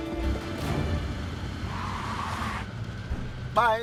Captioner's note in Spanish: Ruido del vehículo